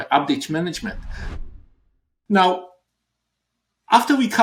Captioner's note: air swish